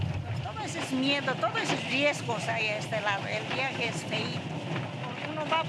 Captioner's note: speaking in foreign language